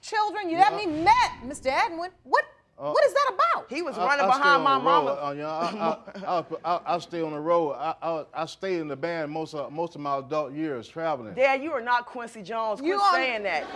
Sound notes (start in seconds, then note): 6.4 stuttering; 13.5 audience laughs, applauds